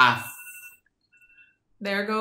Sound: phone dinging

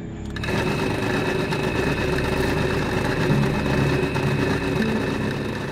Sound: drilling sounds; tapping on the drill

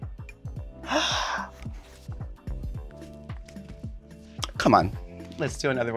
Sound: Sasha gasping

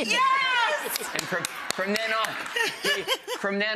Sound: audience claps

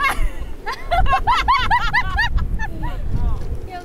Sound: cracking up

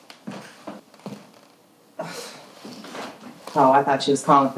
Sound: scoffs

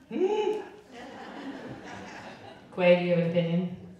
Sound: whimpers; crowd laughing

